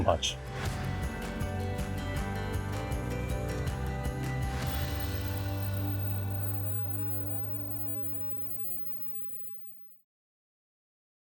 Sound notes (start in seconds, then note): 0.0 gentle bright music; 4.5 gentle bright music ends; 7.4 logo buzzing